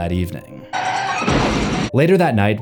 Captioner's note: tires screeching; explosion